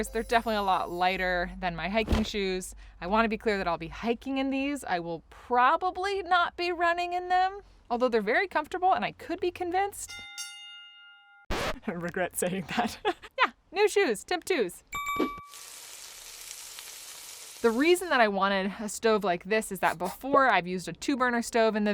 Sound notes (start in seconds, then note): 10.1 bell rings